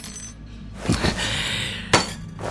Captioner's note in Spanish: Cris respira profudamente